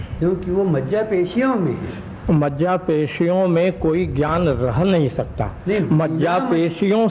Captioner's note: discussion in Hindi